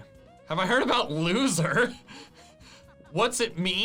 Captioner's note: laughs